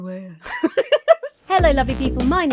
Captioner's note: laughs